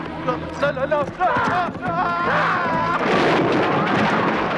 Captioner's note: villager shouting; stall clattering